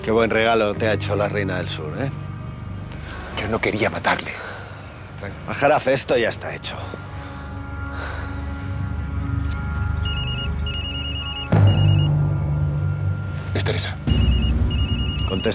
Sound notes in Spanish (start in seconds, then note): 10.0 Suena un celular; 14.1 Sigue sonando el celular